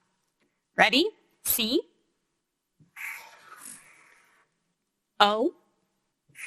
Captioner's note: marker scraping